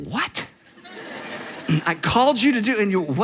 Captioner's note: audience laughs